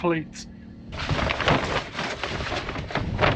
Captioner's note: crashing